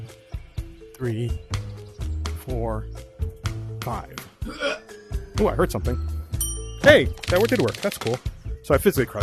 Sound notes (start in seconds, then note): 4.4 grunt; 6.4 ding